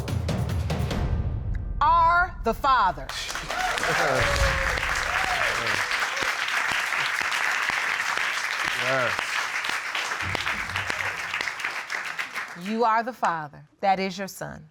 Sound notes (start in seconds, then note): 3.1 audience cheering; 3.4 laughs